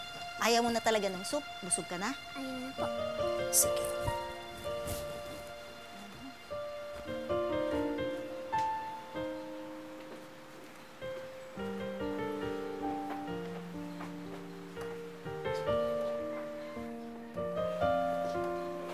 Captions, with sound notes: Are you already full? Don't you want soup? -I don't want it. -All right. [Ling humming] [soft music playing]